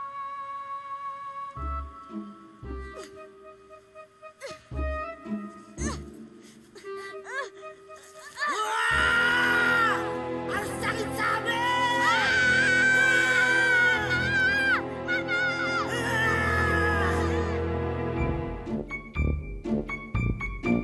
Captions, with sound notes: [grunting] [yells] I told you that hurts! [both screaming] -Mom! -[yells] CIRCUMCISION TIME